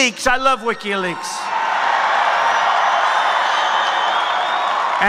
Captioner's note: crowd cheering